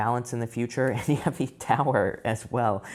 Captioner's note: tarot reader laughs